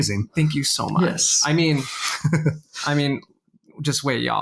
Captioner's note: laughs